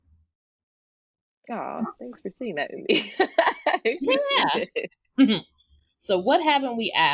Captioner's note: laughs